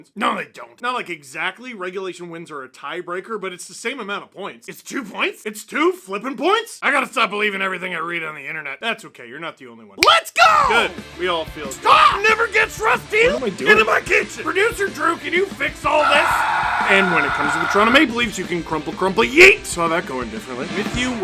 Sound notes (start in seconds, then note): 15.9 screaming